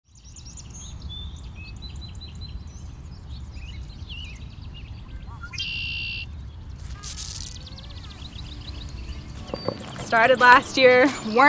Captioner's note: nature sounds